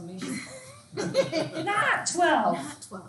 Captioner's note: students laughs